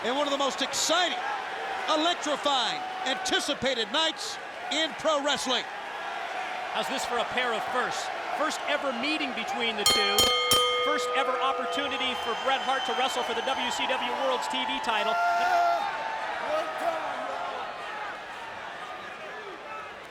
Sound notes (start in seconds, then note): 9.8 bell rings